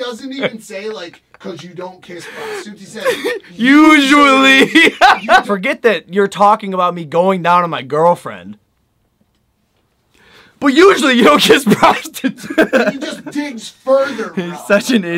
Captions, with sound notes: He doesn't even say it like, because you don't kiss prostitutes, he says usually! (more laughter) Forget that you're talking about me going down on my girlfriend... But usually, you don't kiss prostitutes! (laughter) "He just digs further, bro.." He's such an idiot.